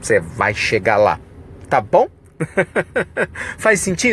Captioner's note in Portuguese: risos